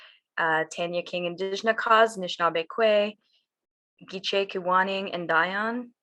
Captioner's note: speaks in foreign language